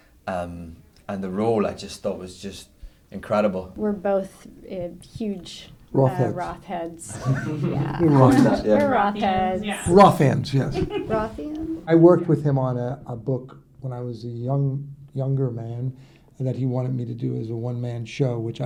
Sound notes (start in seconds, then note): 5.9 laughing; 11.4 laughs